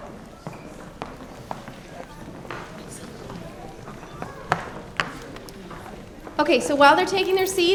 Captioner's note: general chatter